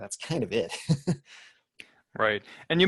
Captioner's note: laughs